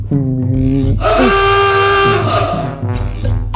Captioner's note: drumbeats; aooga!; clacking noises